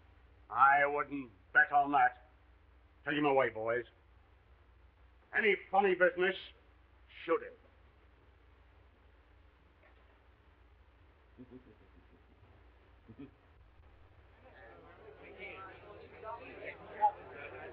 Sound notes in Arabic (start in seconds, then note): 11.3 يضحك بهدوء; 14.4 الناس يتحادثون